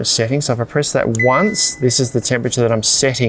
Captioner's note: fridge beeps